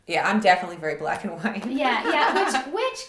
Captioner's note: laughs